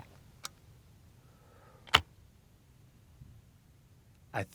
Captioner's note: shotgun clicking